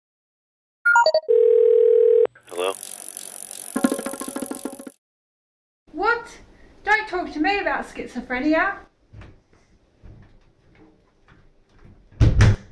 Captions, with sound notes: (phone rings) Hello? What? Don't talk to me about schizophrenia.